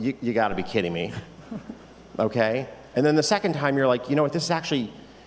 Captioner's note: laughter